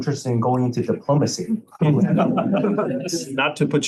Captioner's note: laughter